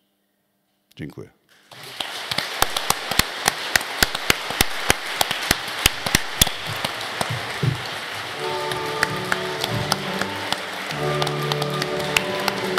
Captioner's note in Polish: oklaski